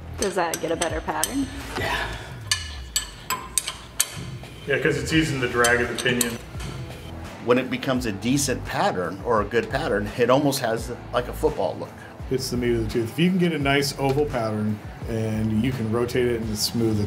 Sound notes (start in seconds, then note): 2.0 metal clinks from the wrench on carrier